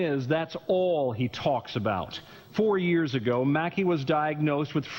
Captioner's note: voiceover